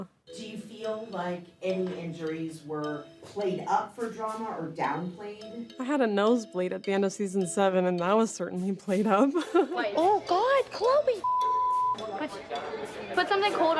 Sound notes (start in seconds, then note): 9.2 chuckling